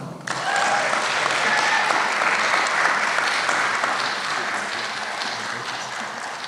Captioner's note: applause